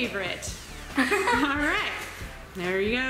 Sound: laughing

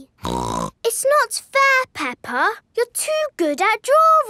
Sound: snorts

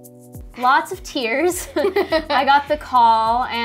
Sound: laughs

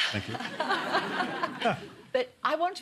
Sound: laughter

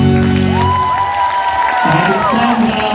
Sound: applause

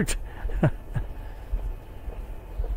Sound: chuckles

